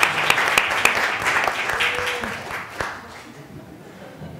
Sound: applause

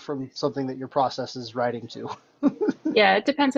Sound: laughs

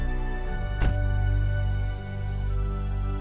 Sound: trunk door closes

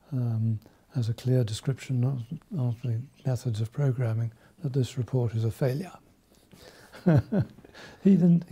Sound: laughs

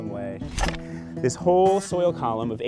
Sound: digging

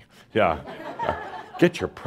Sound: some chuckles

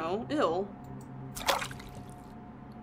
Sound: water Splashes

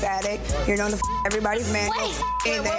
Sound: beep; beep

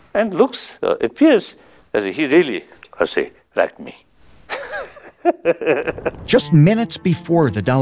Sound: laughs

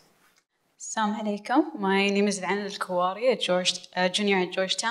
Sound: foreign language

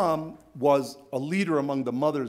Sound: none

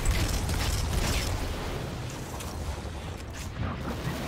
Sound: gun firing

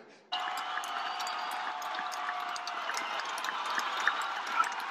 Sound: applause and cheering

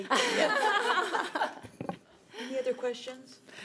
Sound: laughing

